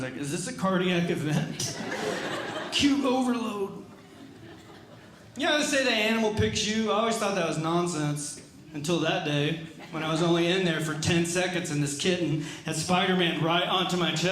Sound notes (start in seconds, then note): 1.4 audience Laughing